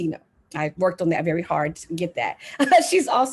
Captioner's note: laughs